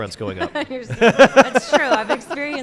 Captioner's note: laughs